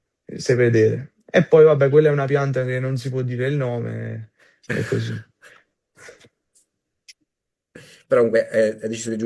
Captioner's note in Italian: schiarire la voce